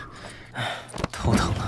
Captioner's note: sigh